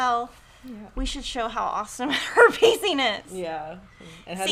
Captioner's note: guffaws